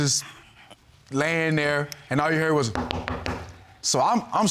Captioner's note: knocks on table